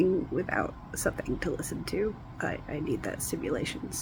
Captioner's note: none